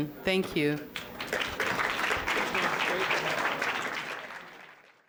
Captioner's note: applause